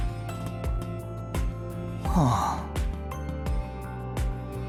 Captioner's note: sigh